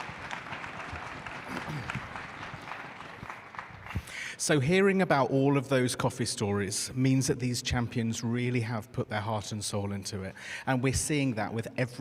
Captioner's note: applause